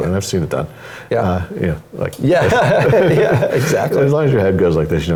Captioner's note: laugh